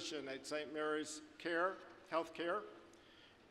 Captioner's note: none